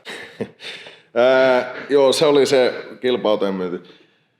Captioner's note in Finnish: naurahtaa